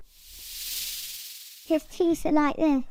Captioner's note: snake hissing